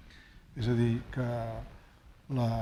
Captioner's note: speaking spanish